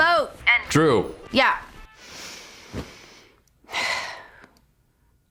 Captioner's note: sighs